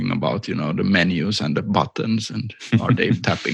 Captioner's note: laughther